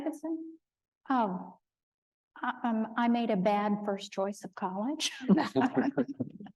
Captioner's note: laughing